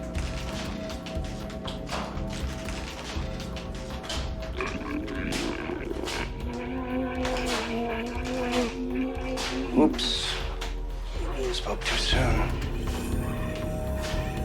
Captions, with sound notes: (quiet suspenseful music) (revenant growling) - Oops, I spoke too soon.